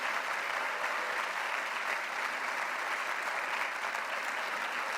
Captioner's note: violence.Applause